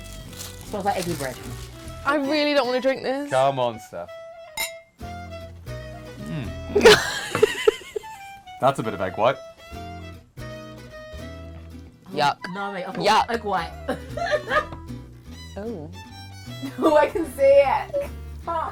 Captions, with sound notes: - Smells like eggy bread. - I really don't want to drink this. - Come on, Steph. (laughs) That's a bit of egg white. - Yuck, yuck. - No I've got egg white. - (laughs) Oh, I can see it.